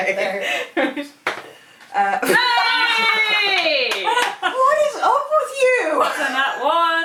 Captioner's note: cheering and hollering